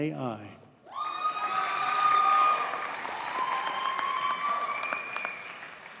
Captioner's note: audience cheers and applauds